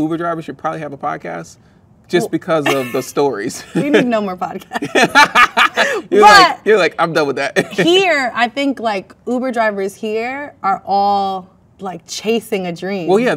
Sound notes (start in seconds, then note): 2.6 laughs; 4.6 both laugh; 7.6 laughs